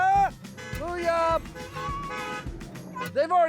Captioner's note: cars honking